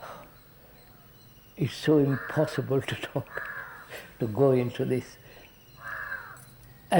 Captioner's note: laughs